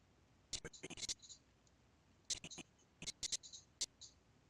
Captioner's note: audio skipping